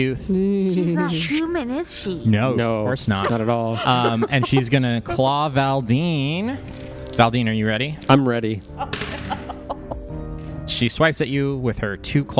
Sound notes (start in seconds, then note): 3.1 laughs as she says